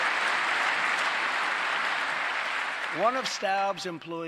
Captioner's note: applause